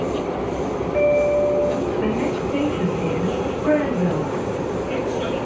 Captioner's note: Skytrain Ding Chime